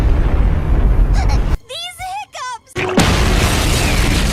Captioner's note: explosion